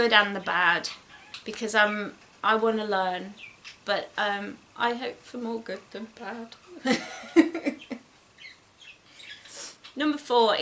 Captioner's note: giggles